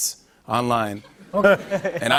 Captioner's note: laughter